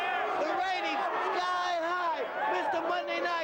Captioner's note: crowd jeering